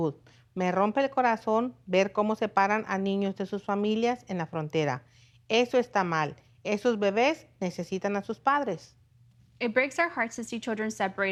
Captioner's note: speaking spanish